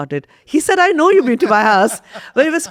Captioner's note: laughs